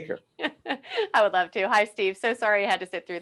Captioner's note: laughing